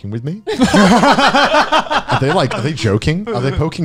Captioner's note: laughing